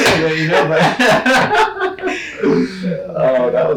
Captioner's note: laughing